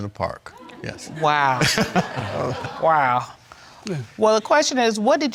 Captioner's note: chuckling